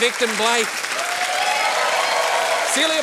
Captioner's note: cheering, applause